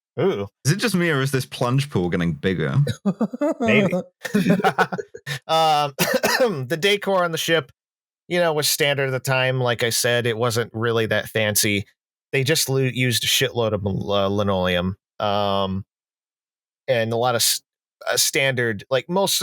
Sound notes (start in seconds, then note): 2.8 laughs; 4.1 laughter